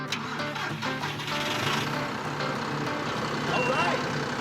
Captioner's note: engine starting